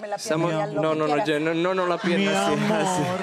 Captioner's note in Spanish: Balbuceo